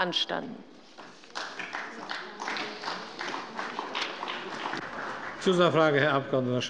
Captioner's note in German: Beifall bei der CDU und dem BÜNDNIS 90/DIE GRÜNEN